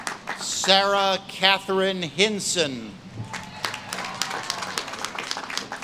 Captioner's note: audience claps and cheers